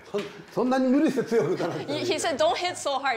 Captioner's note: speaking japanese